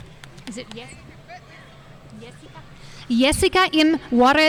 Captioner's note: speaking faintly